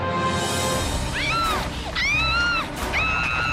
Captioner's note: screaming